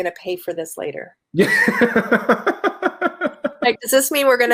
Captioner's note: laughing